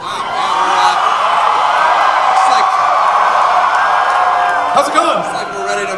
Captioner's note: crowd cheering